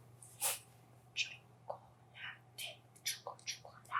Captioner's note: whispering